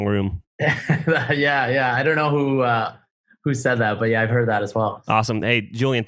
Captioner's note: laughs